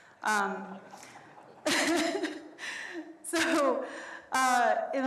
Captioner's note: everyone laughs